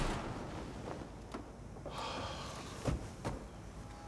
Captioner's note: door thuds